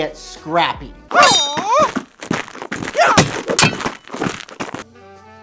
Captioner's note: intense fighting noises